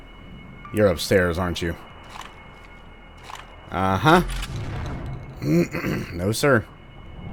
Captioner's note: slightly distant radio sounds/chatter; clears throat